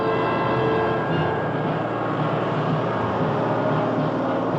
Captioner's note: engines rumble